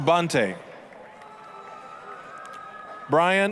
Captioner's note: applause, cheering